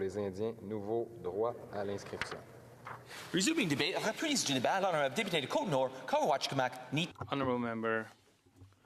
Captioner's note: speaking French